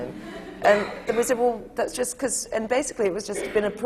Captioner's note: laughs; laughter